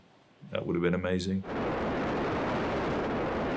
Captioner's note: rocket engines roar!